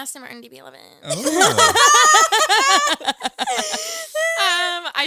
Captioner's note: all laughing